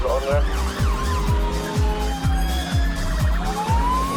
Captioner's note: sirens; electronic dance music